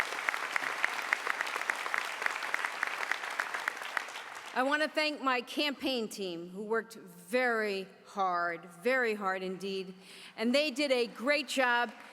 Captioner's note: applause